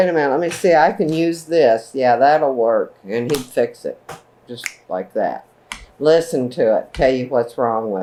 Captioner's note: snaps